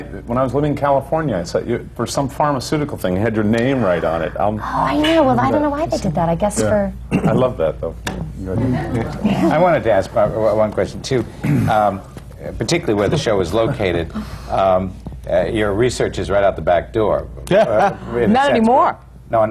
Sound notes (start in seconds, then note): 10.6 laughter; 17.6 laughs